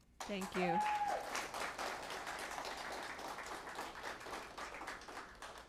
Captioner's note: applause